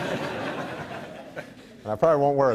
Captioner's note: laughs